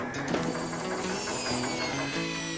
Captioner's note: drill Whirrs